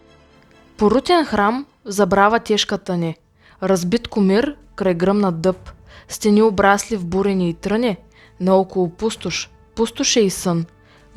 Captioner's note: recites Bulgarian poetry